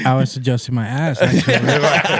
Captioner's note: laughing